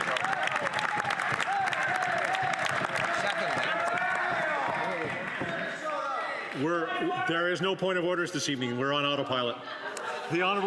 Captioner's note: applause